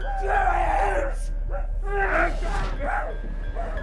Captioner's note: Skull-Faced Assailant shouts; Skull-Faced Assailant gasping hysterically